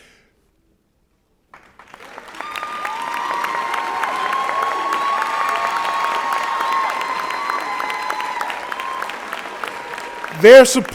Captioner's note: applause and Cheering